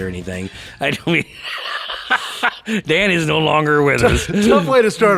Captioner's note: laughs